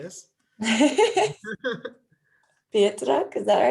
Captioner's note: laugh